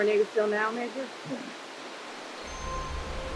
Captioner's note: chuckles